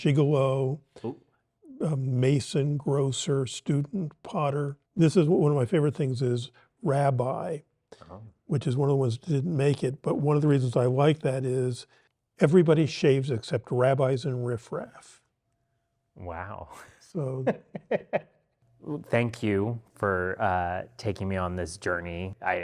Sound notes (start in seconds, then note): 16.7 chuckles